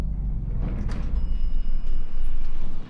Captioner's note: elevator bell dings